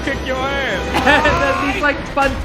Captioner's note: Bucky screams